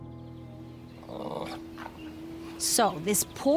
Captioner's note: Archie growling